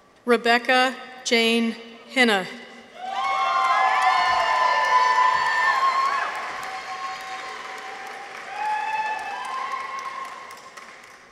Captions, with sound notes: Rebecca Jane Heine. -(people cheer) -(audience applauds)